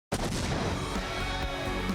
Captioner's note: loud explosion; exciting rock music